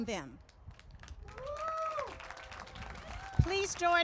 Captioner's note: applause